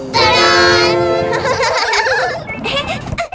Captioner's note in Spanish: Risas